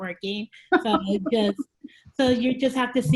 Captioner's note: laughing